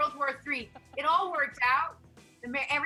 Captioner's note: laughs